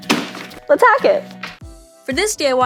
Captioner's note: banging; upbeat music